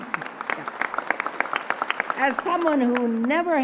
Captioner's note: applause